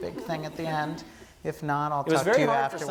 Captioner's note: laugh